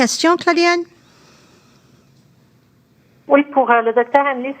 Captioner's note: speaking French